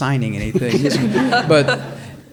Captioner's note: audience laughs